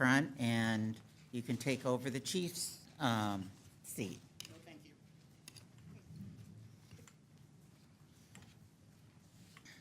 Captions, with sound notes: and you can take over the Chief's seat. Oh, thank you. (conversing quietly)